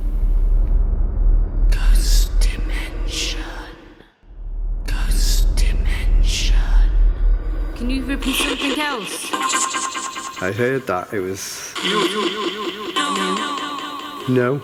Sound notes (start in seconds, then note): 0.4 creepy ambience; 2.4 whispering Voices